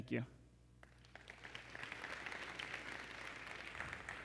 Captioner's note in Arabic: تصفيق